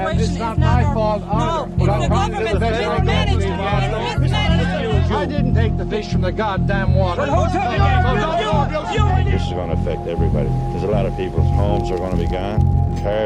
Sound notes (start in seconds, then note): 4.4 people clamoring; 7.0 people yelling